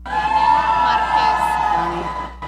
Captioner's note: audience cheering